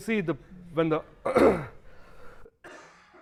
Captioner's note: coughing